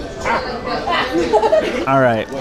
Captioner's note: laughter